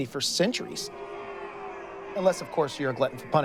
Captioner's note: audience boos